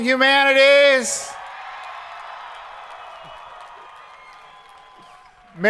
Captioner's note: crowd applauding